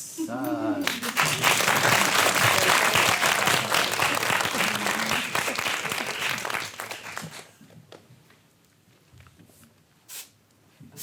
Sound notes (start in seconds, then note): 3.9 audience applauds